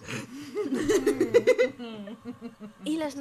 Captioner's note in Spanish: risas